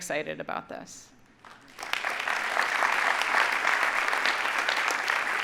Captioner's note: audience applauding